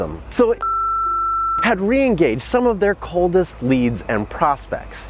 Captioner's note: beep